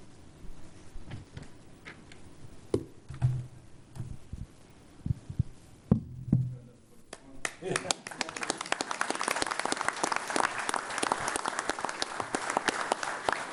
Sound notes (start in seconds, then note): 7.1 all applauding